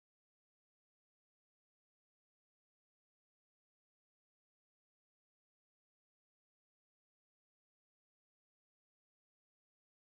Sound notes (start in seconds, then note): none